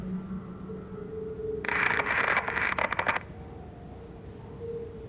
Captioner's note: static buzzing